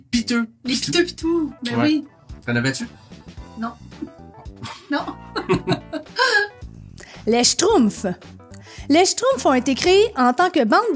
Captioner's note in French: rires